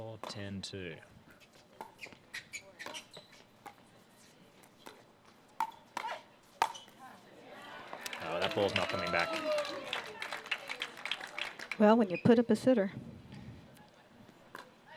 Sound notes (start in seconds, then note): 10.1 applause